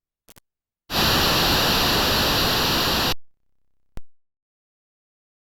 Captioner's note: drawn-out static